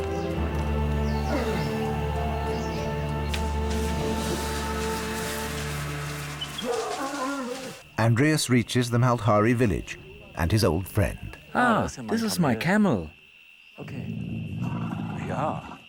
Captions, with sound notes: [bellows] [lions growl] Andreas reaches the Maldhari village and his old friend. [in German] This is my camel. OK. Ja.